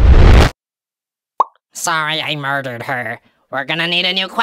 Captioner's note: popping sound